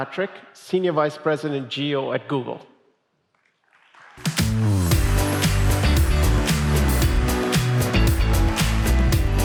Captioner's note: applause